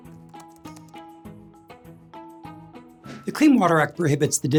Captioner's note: gentle upbeat music; words typing